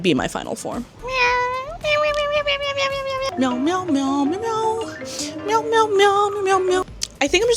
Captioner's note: meowing